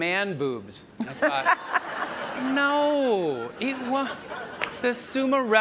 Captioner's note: audience laughs